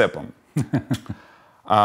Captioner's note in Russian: смеется